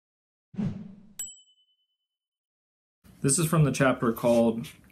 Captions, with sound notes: (bell dings) - This is from the chapter called